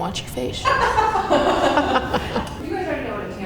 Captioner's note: laughter